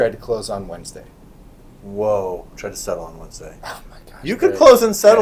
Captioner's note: laughing